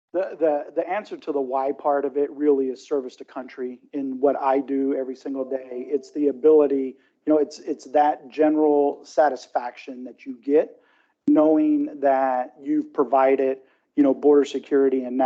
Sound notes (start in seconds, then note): none